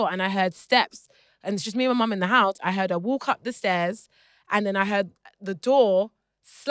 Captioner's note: none